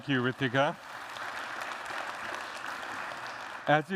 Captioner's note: applause